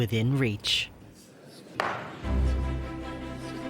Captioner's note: pounds gavel